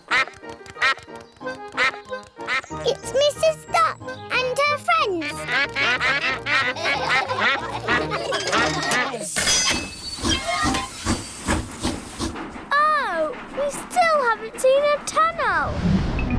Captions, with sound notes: -(QUACKS) -It's Mrs. Duck and her friends. -(ALL QUACK) -(LAUGHTER) (TRAIN CHUGS) Oh, we still haven't seen a tunnel!